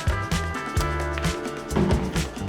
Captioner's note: ball clacks